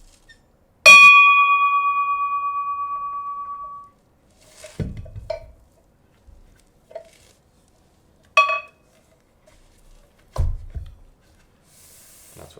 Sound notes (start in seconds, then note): 0.9 bell chimes gently ringing